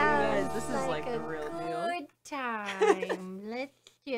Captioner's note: laughing